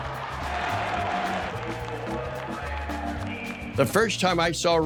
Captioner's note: crowd cheering